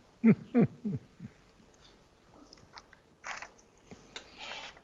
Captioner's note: chuckling